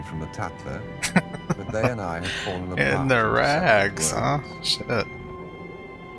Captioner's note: laughing